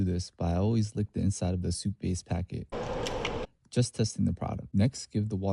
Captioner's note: licking inside the packet noise